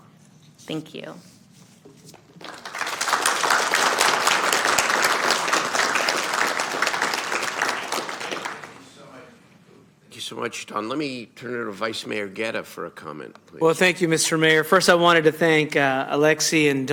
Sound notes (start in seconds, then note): 7.6 applause